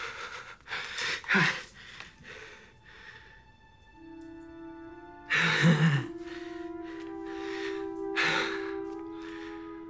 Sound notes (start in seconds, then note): 1.6 gasps; 5.6 laughs nervously